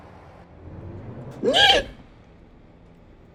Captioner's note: Screech